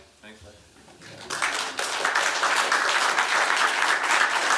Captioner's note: applause